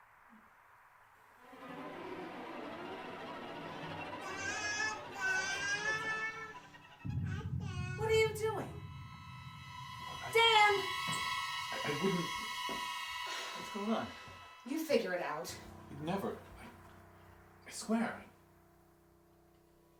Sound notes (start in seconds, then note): 1.5 eerie music; 4.3 baby cooing